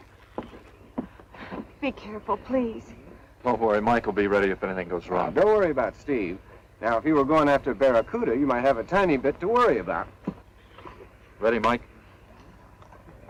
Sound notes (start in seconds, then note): none